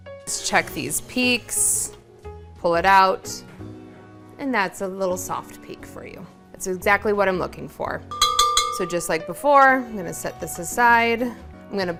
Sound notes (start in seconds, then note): 8.1 bowl clanking